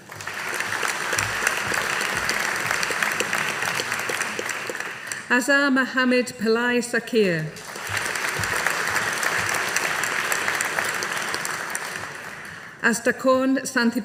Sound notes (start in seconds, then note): 0.0 audience applauding; 7.5 audience applauding